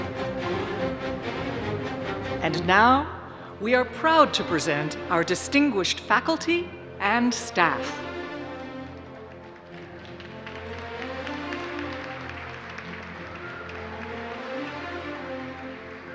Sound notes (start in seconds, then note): 10.3 applause